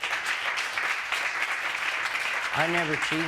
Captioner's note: applause